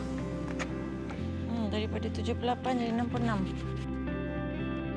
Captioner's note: speaking foreign language